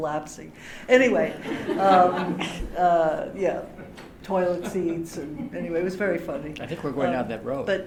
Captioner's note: laughter